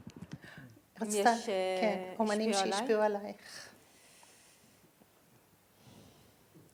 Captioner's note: speaking in foreign language